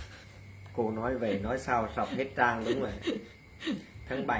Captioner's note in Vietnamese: tiếng cười